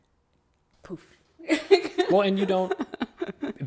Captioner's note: laughs